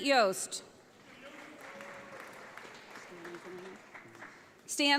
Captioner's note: audience applauds